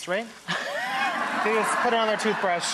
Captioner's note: Rachael and audience laugh